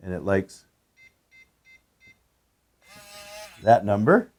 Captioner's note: keypad tone